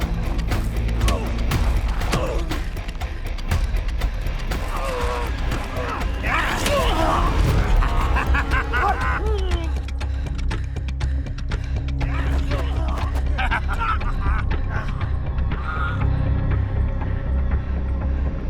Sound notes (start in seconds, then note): 7.8 fighter laughing; 10.0 dramatic music